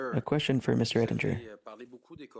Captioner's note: speaking French